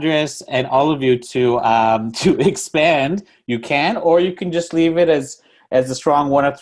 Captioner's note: laughs